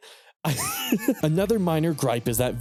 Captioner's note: laughs